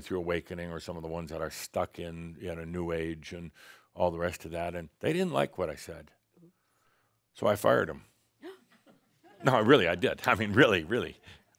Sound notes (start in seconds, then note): 7.9 gasps